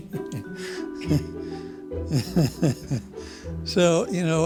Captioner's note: laughing